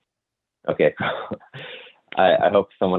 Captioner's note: laughs